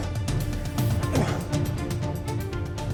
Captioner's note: grunts